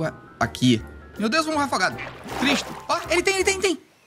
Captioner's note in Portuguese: som de pato